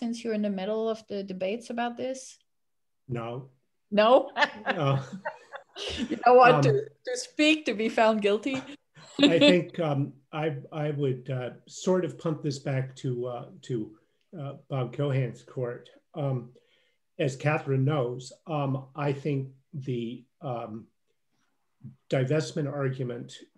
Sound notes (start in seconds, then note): 4.3 laughs